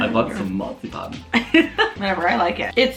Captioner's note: laughs